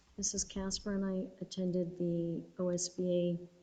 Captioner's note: none